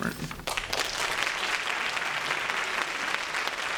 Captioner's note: applause